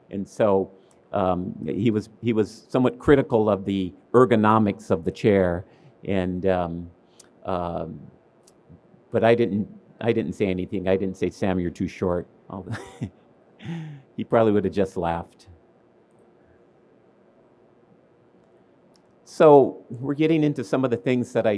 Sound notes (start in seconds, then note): 13.6 laughs